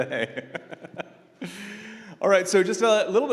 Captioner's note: laughter